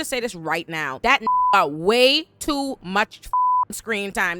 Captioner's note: beep